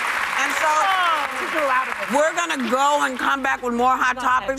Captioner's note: applause